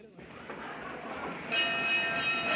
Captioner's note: bell Clanging Loudly